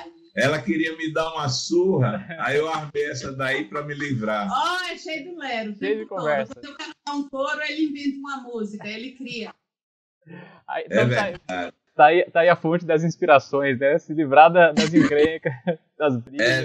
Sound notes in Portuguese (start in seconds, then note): 6.4 risos